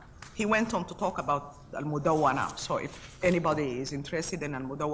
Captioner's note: speaks foreign language